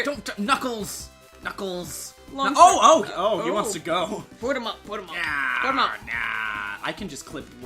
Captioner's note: deep voice